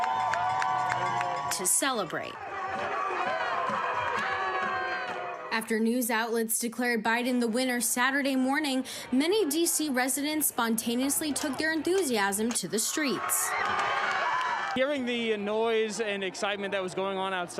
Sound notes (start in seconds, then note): 5.8 cheers and applause